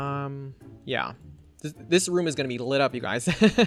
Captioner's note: laughs